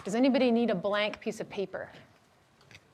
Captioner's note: none